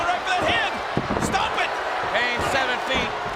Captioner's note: audience jeers